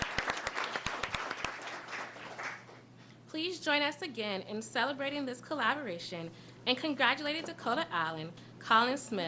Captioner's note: applause